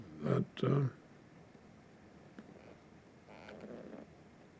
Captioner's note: pauses 10 seconds